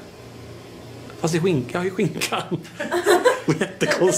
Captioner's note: laughing